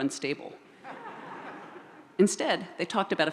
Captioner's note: audience laughs